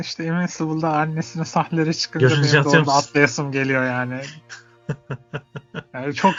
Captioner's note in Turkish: kahkaha